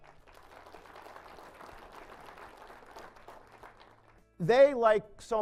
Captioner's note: applause